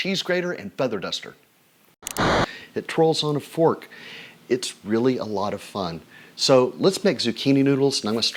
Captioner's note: static sounds